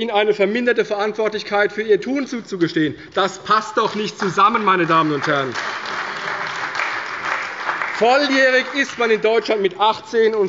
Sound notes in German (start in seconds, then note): 5.4 Beifall bei der CDU